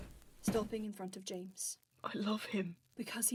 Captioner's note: footsteps pausing